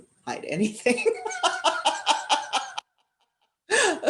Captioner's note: laughter